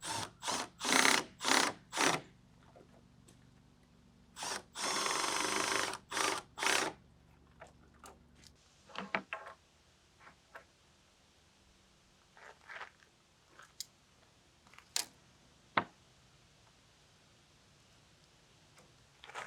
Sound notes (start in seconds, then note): 0.8 tools whirring